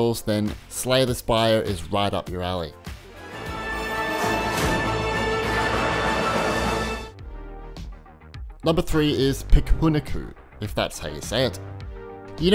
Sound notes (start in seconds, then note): 3.0 games sounds